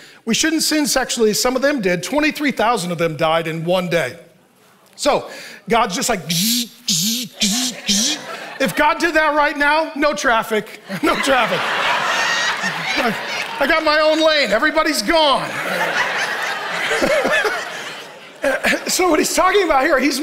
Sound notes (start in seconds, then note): 6.0 buzzing; 11.9 congregation laughing; 15.4 laughing